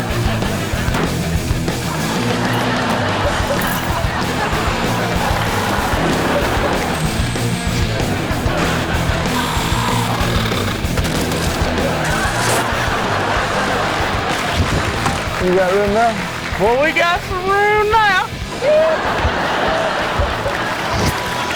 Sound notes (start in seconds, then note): 10.8 windshield cracking and shattering; 11.0 crash; 18.5 audience laughing and applauding; 21.3 car beeping